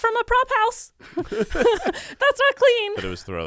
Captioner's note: everyone laughs